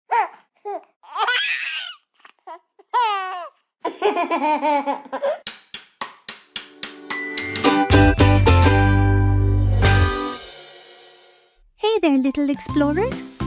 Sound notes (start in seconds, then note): 0.1 giggles; 3.9 laughing